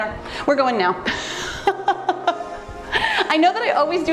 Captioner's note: laughs